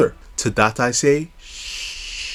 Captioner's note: shhhhssss